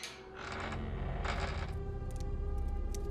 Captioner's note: door creaking; soft intense music